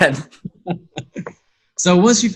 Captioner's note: laughs